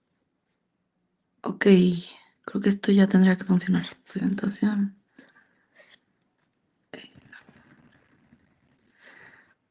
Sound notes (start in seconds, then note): 2.9 speaks in Spanish